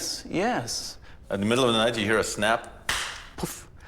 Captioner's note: claps once